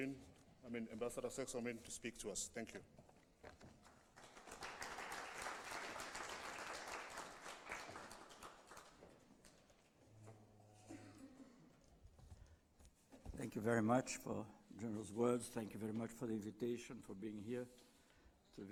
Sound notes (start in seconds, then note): 3.9 applause